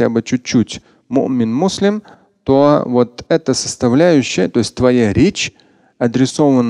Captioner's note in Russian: говорит на арабском